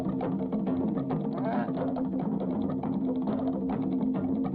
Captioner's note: groans